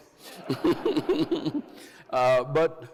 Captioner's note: Andrew and crowd laughs